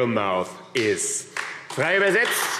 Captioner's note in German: Beifall AfD